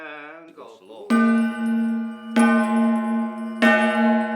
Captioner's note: gong ringing